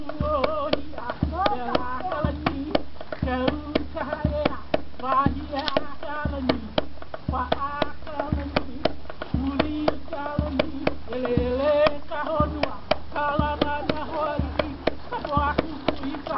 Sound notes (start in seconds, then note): 0.0 continuous Polynesian chanting; 1.2 exclamation in Polynesian; 5.0 continuous Polynesian chanting